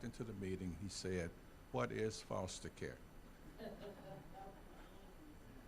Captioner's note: audience laughing